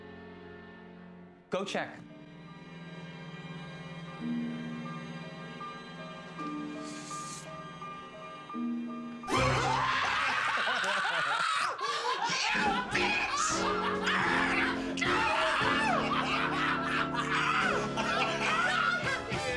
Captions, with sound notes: Go check. [CREEPY MUSIC] [SCREAMING AND LAUGHING] You, bitch.